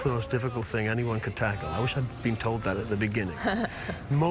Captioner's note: laughs